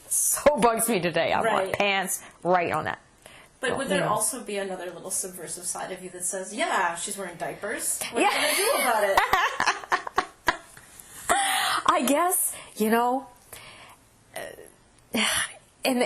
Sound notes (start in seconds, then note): 9.1 laughter